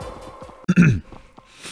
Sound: clears throat

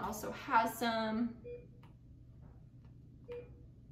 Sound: beeping

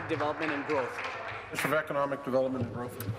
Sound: applause

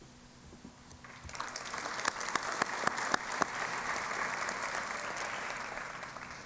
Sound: applause

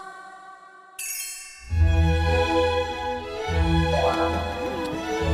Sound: the door opens

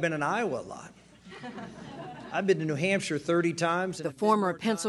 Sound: laughter

